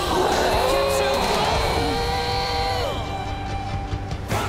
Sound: both grunting

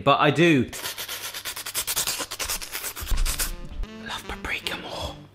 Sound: slurping

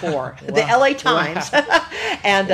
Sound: both laugh

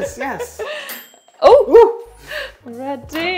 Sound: ping

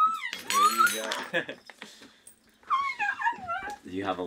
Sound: utensils clanking; laughs

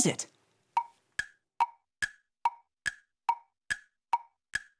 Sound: clock ticking

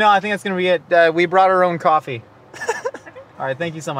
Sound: laughs

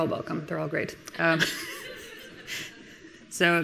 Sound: and some of the audience laughing

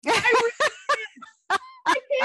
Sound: laughter

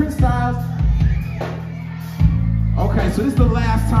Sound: audience responds

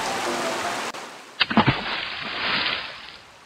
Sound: splash

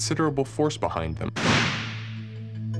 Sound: bang!

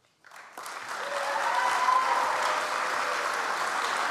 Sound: audience applauds

